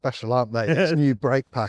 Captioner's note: laughs